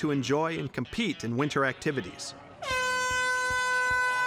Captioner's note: loud blast of a horn